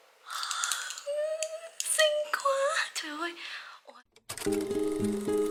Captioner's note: crying of happiness